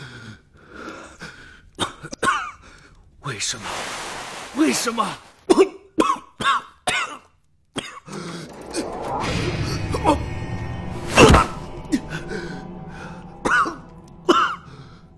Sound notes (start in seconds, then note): 5.4 coughs; 13.4 coughs